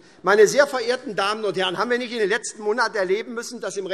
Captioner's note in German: none